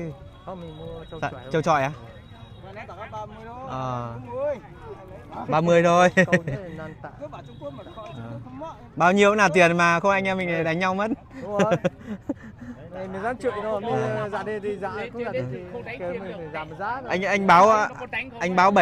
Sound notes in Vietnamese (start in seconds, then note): 9.3 Tiếng cười